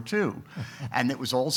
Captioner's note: chuckles